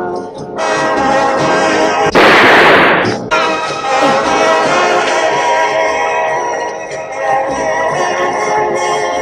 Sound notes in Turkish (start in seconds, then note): 2.1 Silah sesi